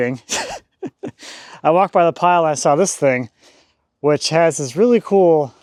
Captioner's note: chuckling